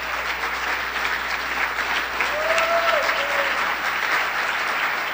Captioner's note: applause